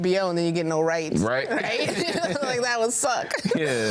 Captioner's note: laughs